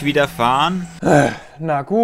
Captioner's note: sigh